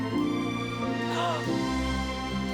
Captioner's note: gasping